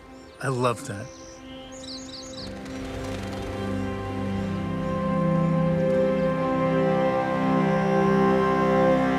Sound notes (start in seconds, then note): 1.7 birds chirping; 4.6 slow dramatic music